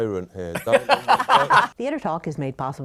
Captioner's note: laughter